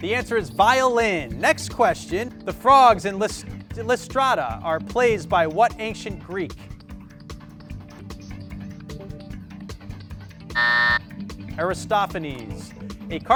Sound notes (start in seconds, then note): 10.5 buzzer